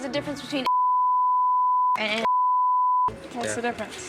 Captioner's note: beep